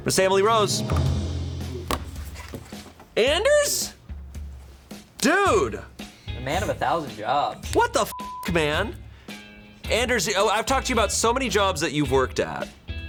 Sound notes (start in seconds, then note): 0.4 tense music building; 0.9 button clicks; 1.8 light upbeat music; 8.1 beep